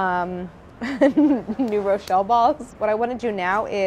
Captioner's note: laughing